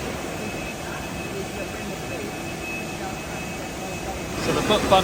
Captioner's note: machinery whirring and beeping drowns out speaking